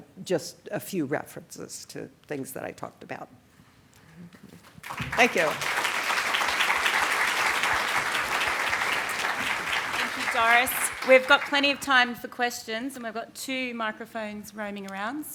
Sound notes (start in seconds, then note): 4.6 applause